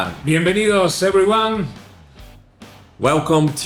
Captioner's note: Spanish